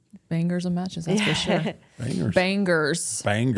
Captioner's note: Bayley Laughing